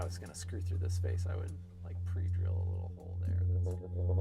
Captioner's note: droning